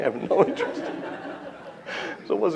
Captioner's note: laughter